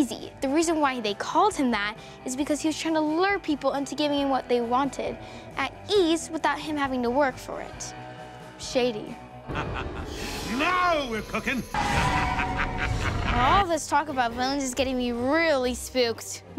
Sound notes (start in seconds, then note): 9.4 evil cackle